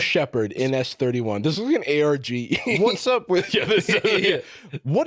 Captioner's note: laughs